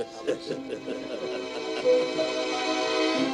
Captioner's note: haha; the Sad Music